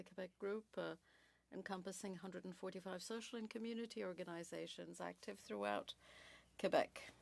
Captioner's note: speaking French